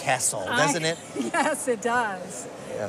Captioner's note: chuckling